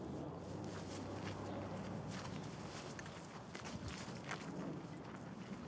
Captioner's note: footsteps crunching